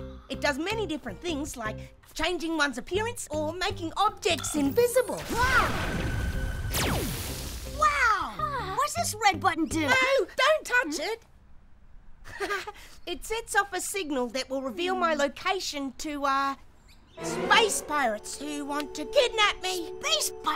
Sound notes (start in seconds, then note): 5.2 laser whirs; 12.2 chuckles